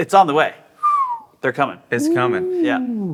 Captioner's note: whistles